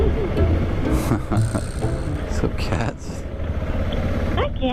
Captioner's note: laughing